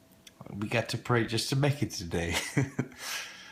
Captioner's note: laughs